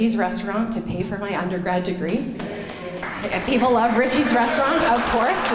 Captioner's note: clapping